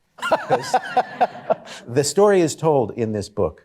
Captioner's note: laughter